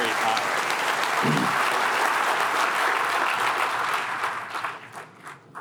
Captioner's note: applause